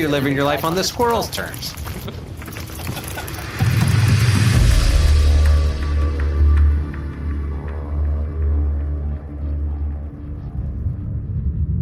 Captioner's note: laughing